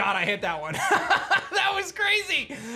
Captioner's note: laughs